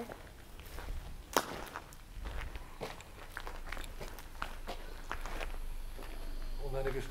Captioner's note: footsteps and wind in the background